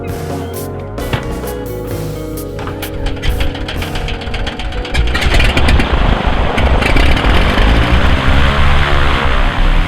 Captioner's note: plane engine starts up